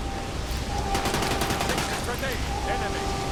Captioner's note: gun firing; guns firing